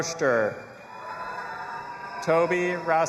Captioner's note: audience applauding and cheering